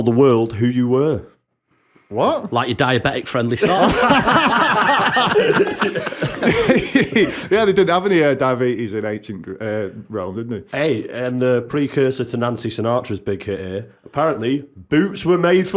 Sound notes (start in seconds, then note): 3.5 laughter